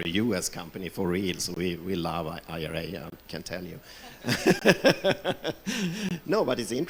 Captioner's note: laughs